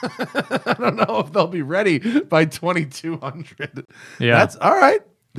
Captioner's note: laughter